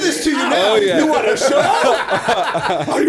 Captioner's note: laughter